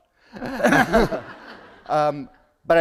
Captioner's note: laughter